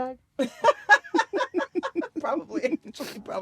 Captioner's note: laughter